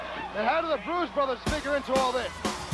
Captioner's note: crowd chatter